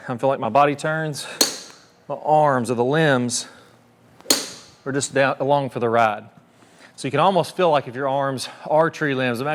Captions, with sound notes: I feel like my body turns, (tee clinks) my arms or the limbs (tee clinks) are just down along for the ride. So, you can almost feel like if your arms are tree limbs.